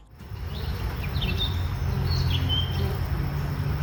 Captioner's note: bees buzz